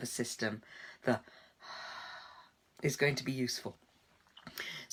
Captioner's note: exhaling